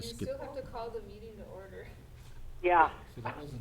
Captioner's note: laughs